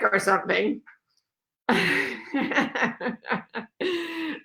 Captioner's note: laughs